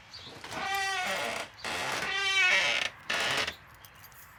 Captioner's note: door creaks